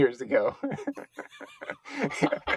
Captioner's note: laughing